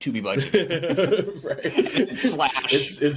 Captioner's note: laughs